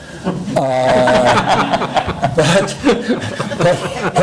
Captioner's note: laughing